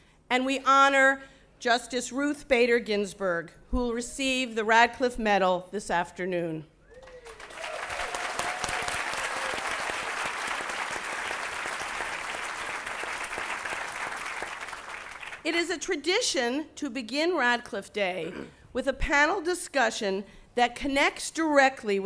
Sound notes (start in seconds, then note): 6.9 applause